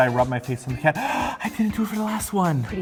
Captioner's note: gasp